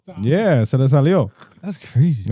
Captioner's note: speaking In Foreign Language